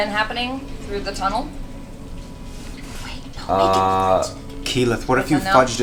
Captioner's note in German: flüstert